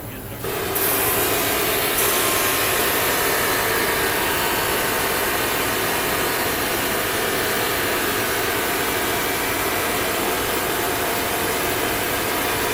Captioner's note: engine revving